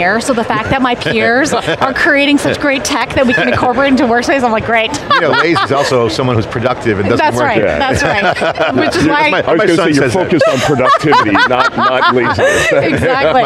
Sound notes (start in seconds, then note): 4.8 laughs